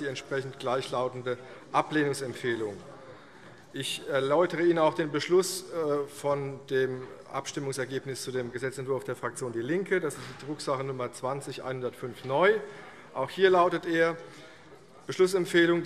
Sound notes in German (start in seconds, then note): none